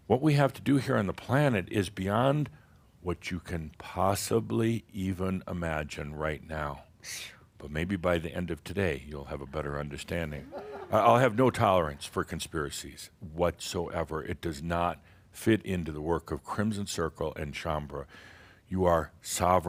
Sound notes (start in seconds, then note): 10.0 someone says “Ooh!”